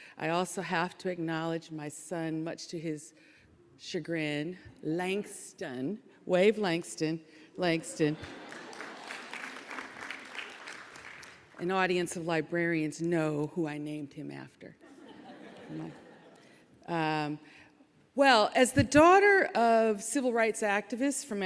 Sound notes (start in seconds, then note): 8.1 audience chuckling; 8.2 audience applauding; 14.9 audience chuckling